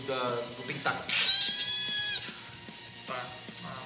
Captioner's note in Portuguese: grunhido